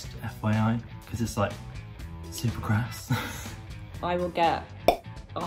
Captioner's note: laughing